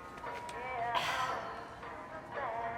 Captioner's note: sighs